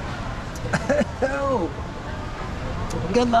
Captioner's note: is coughing